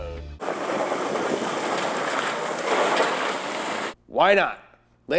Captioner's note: car engine rumbles